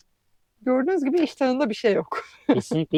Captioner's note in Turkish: kahkaha